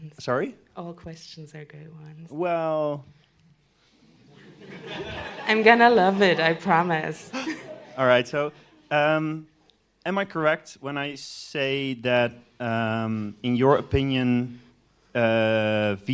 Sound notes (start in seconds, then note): 2.7 laughter